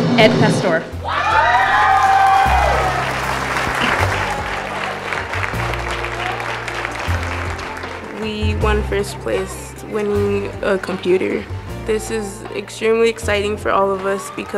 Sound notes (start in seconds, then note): 1.0 audience cheers; 2.5 audience applauding; 3.5 calm piano music